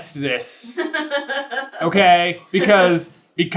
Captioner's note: laughing